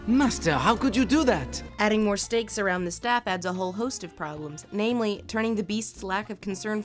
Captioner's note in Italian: voce fuori campo